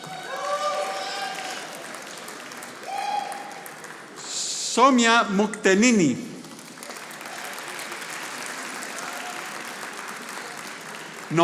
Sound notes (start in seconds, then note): 0.0 audience applauding; 6.3 audience applauding